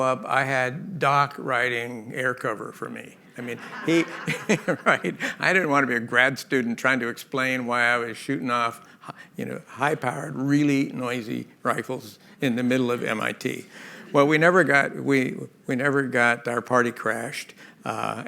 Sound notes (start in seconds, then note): 3.4 laughter